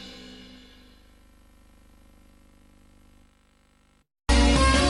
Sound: VHS static; music finishes in a music snippet

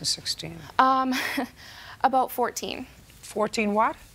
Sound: chuckles

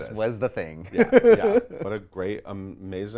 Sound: laughs

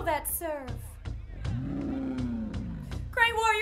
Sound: bear growls

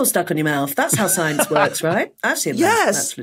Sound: laughs

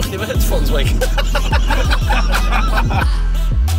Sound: laughter

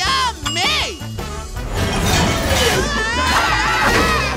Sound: screaming

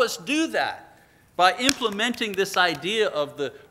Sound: slaps hands

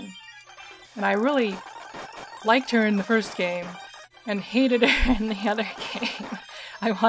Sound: laughing

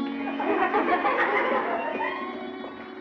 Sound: laughing

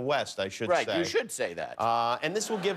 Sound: laughter

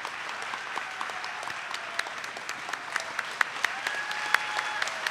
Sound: audience applauding

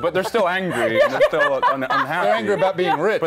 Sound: laughter

